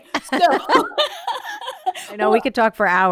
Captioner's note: laughing